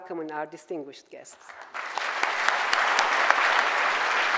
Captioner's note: applause